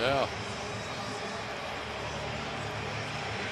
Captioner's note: whistles